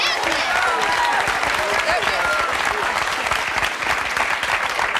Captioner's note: clapping